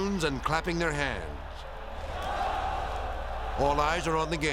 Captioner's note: crowd cheering